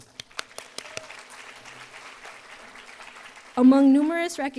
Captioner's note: applause